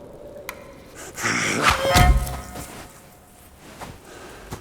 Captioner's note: suspenseful music; knife whooshes